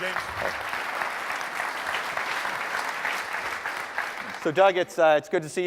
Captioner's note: applause